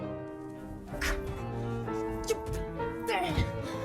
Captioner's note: exclamations